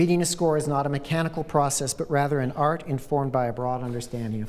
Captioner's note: none